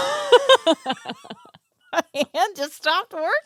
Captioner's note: laughing